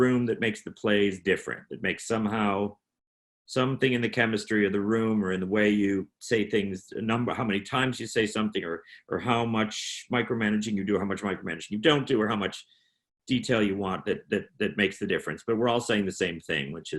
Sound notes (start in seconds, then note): none